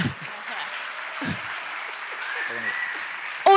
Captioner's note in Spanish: Aplausos